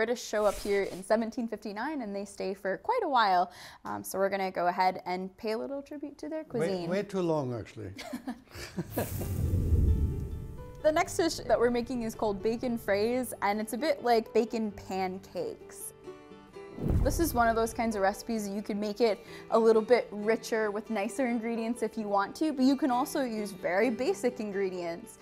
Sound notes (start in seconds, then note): 7.9 both laugh